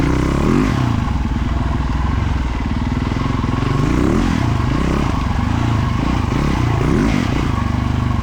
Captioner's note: engine revving